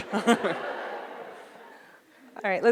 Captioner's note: audience laughs